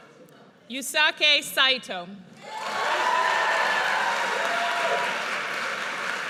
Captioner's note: audience cheers